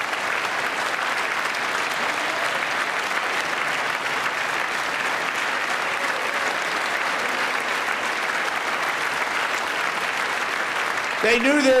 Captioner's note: applause